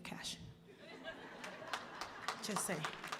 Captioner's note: audience laughing and applauding